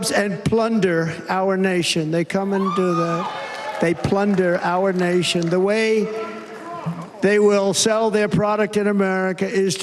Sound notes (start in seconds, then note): 0.9 cheers and applause